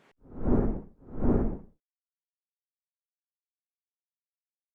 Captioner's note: air whooshing